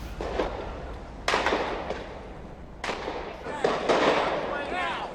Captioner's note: gunshots